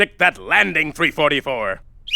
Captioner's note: blows whistle